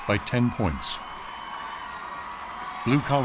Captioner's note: audience cheering and applauding